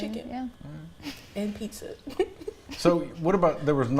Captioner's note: laughs